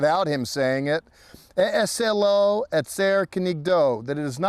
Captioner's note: speaking in Hebrew